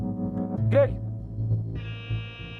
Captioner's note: beeping